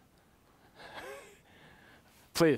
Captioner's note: laughs